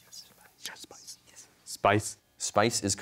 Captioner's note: whispers